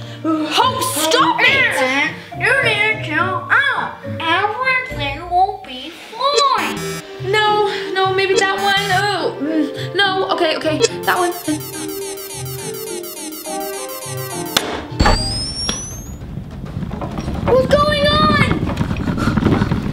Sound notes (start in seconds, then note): 10.8 beeping